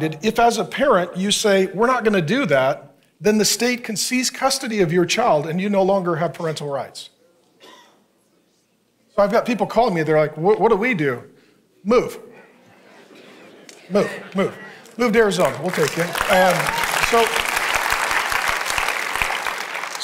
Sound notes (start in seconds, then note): 12.3 congregants chuckling; 16.4 congregation cheering and clapping